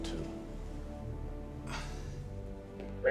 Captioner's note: sighs